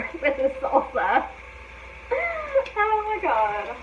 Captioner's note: laughing